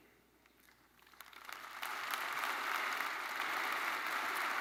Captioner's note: attendees applauding